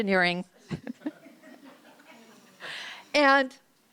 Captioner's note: laughter